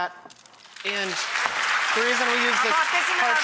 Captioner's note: audience claps